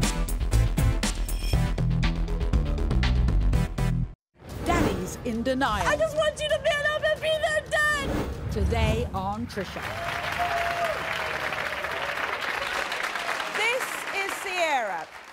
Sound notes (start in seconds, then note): 9.6 audience applauding